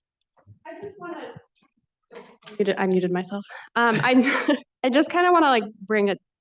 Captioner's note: laughs